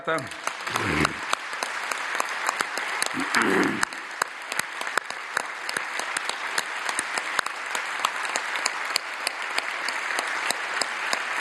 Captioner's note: roar of applause